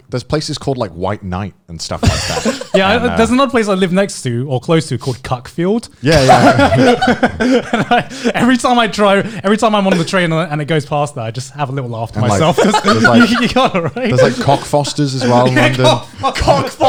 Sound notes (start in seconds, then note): 2.0 laughing; 6.0 laughing; 12.2 laughing